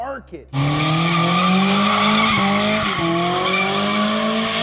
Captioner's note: engine humming